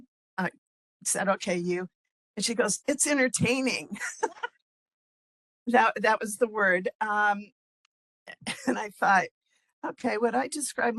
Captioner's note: laughing